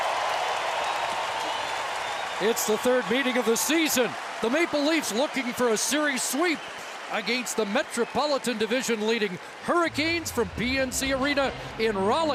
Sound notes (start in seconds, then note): 5.0 cheering and Applause